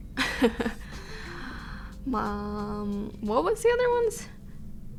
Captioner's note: she laughs